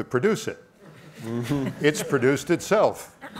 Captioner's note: laughing